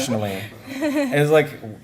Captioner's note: laughter